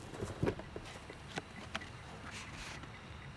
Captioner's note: beeping